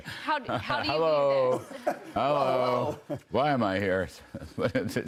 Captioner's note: laughter